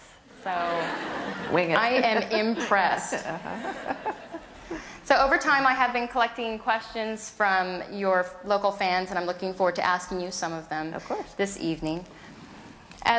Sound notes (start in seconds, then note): 0.6 laughter; 3.0 laughs